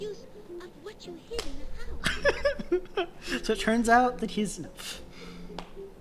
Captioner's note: giggling